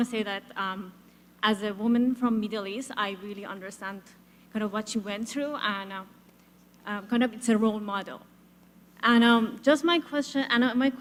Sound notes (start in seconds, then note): none